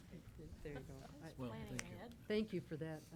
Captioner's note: board members chattering